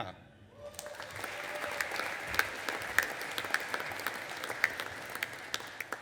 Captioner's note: audience applauding and cheering